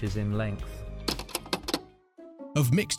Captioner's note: film clicks